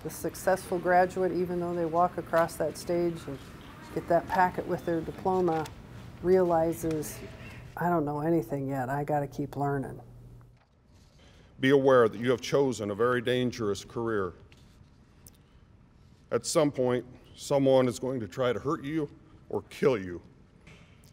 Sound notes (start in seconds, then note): none